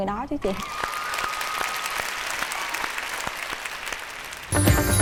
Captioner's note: applaud